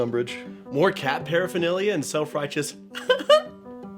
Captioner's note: giggle